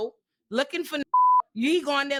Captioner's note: beep